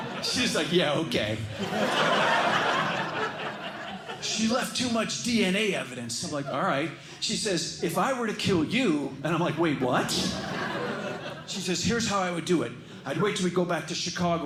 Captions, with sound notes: She's like, "Yeah, OK." [LAUGHTER] She left too much DNA evidence. I'm like, "All right." She says, "If I were to kill you," and I'm like, "Wait, what?" She says, "Here's how I would do it. I'd wait till we go back to Chicago